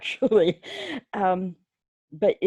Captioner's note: laughing